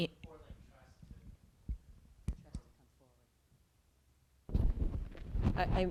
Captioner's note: speaking quietly